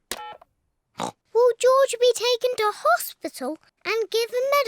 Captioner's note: oinks